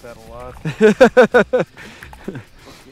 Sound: laughter

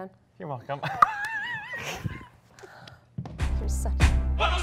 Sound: laughing playfully

